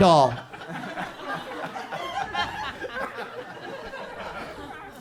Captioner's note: audience chuckles